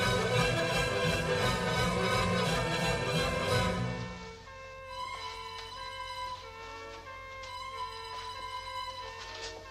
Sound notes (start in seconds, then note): 3.3 sirens wailing in distance